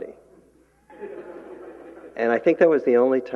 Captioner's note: laughter